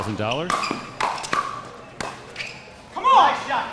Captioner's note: ball clacking